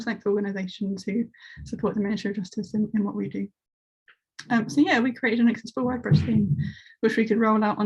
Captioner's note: distortion of sound